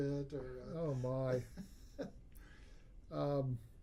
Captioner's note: laughs